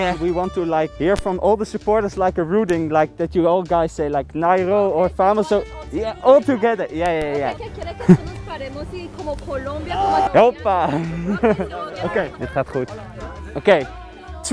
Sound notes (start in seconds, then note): 8.2 something spanish